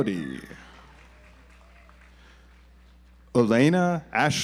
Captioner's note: audience applauds